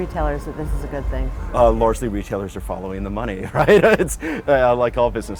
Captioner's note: laugh